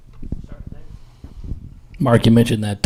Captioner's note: quietly speaking